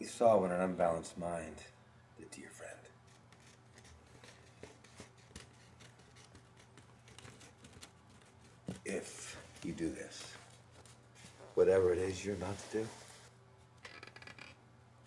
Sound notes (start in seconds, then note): none